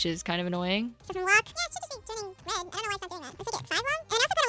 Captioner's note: sped up chatter